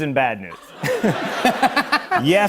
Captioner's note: laughter